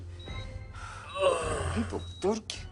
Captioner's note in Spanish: Quejido